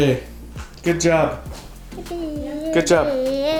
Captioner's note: vocalizes